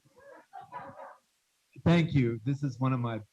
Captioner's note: students laughing